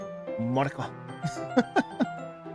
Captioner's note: speaking foreign language